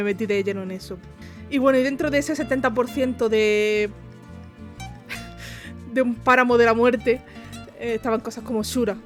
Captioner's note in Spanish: risas